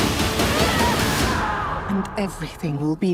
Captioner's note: Diana yelling